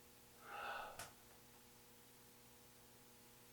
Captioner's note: hair thuds